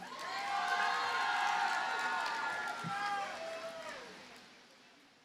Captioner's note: audience cheers and applauds